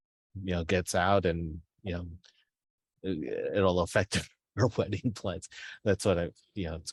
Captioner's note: laughs